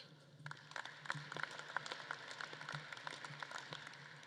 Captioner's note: audience claps